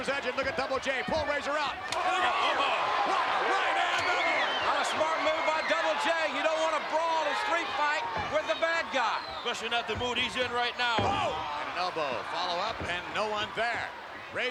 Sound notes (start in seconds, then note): 2.1 spectators cheering